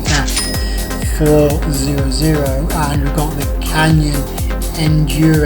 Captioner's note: dings